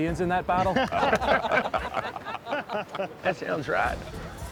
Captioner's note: men laughing